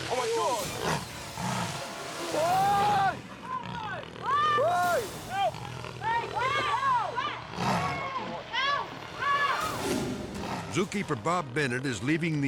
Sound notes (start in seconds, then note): 0.0 lions snarling; 0.0 man speaking; 0.6 lions gnarling; 2.4 screaming; 2.7 suspenseful music; 6.0 people yelling "Help"; 6.0 people yelling; 7.4 lion snarling; 9.6 dramatic air whoosh